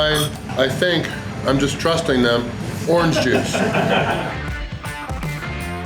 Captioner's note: crowd laughter